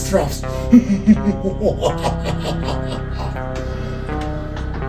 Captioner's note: laugh in evil liquidation